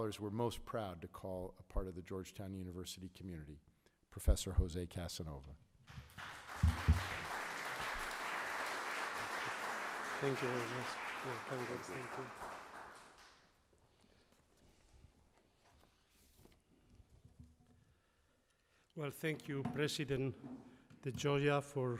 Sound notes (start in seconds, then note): 5.9 audience applauding